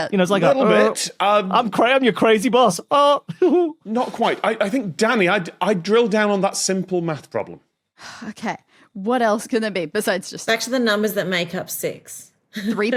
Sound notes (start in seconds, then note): 7.8 sighs